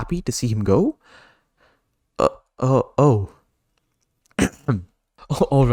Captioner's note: ahem